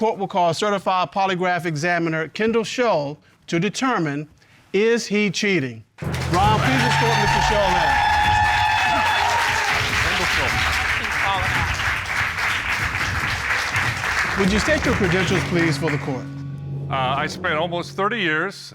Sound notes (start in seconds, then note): 7.6 audience cheer, applaud